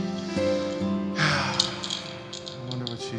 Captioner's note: sighs